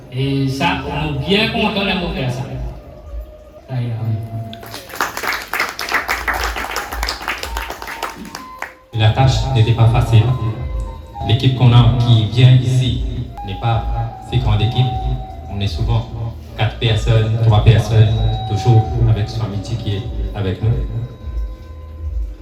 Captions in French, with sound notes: Et moi, je suis bien content d'avoir pu faire tout ça. Sairam. (applaudissements) La tâche n'était pas facile. L'équipe qu'on a et qui vient ici n'est pas une si grande équipe. On est souvent que 4 personnes, 3 personnes, toujours avec Swamiji qui est avec nous.